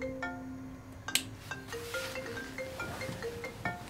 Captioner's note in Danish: Mobiltelefon ringer